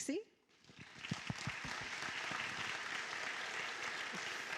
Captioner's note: applause